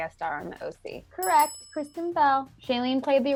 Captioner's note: bell rings